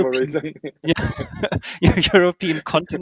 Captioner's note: laughing